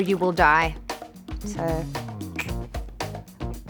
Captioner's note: clicks tongue